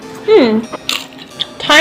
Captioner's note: cronch